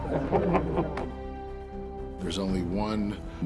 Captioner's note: men laughing